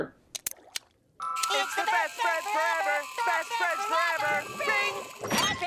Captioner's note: singsong